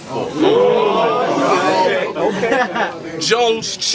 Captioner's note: crowd Reaction